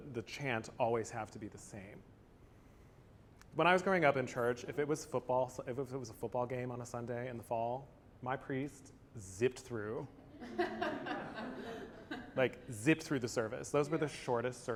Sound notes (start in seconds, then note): 10.2 laughter